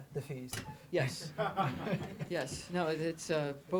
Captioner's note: audience laughter